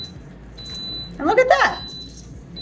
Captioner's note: air fryer beeping